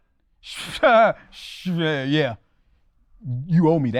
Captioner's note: scoffs